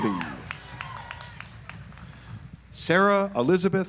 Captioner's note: audience applauds